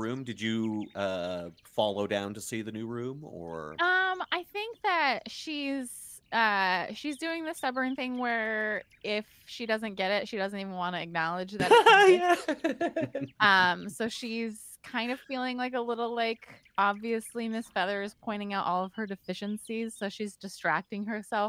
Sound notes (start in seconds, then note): 11.6 laughing